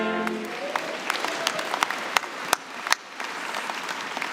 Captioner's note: applause